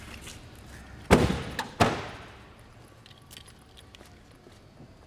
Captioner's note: trunk slamming